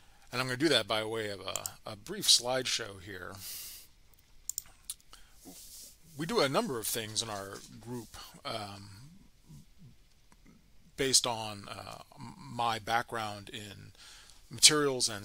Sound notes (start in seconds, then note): 4.4 mouse clicks